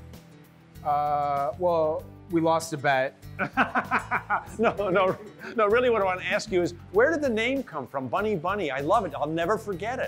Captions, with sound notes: - Well, we lost a bet. - (laughing) No, really what I wanted to ask you is where did the name come from, Bunny Bunny? I love it, I'll never forget it.